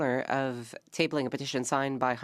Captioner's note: speaking French